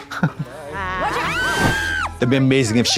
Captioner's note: both screaming